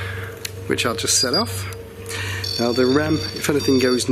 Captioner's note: REM-POD beeping